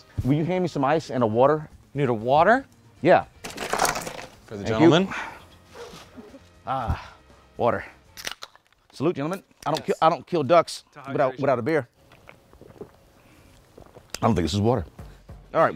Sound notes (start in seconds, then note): 8.2 cans clicking